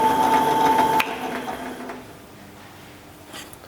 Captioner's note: click, then the whirring stops